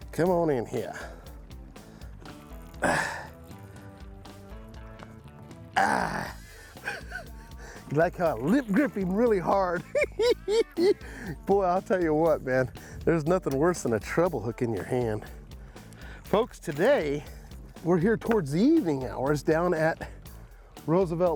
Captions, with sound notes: Come on in here. [grunting] You like how I lip-grip him really hard? Boy, I'll tell you what, man. There's nothing worse than a treble hook in your hand. Folks, today we're here towards the evening hours down at Roosevelt Lake.